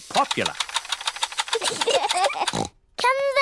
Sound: both laugh

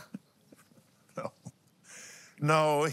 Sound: laughs

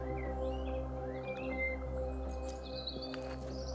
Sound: birds chirping

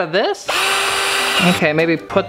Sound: drill whirls

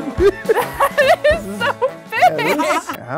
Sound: laughs

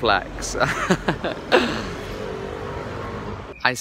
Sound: fake laughs

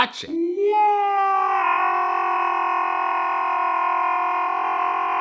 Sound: extended distorted yelling

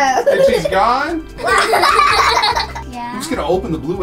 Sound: laughing

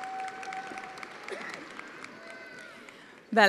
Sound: attendees applauding

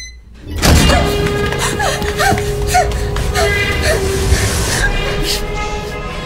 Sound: suspenseful music; lady gasping and whimpering

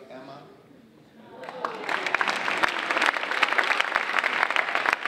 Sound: audience applauding

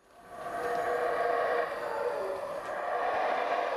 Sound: monkeys howling

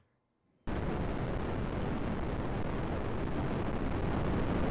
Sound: loud rumbling

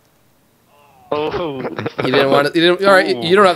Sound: laughter

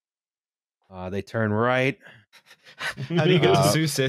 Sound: starts laughing

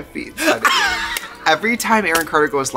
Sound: laughs

